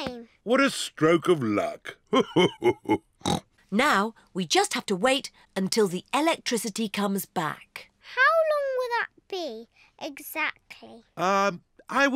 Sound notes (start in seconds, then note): 2.1 laughs; 3.0 snorts